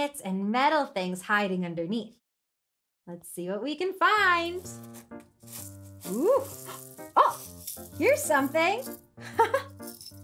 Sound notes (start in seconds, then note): 4.2 bright music; 6.5 gasps